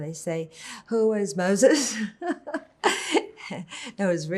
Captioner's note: laughing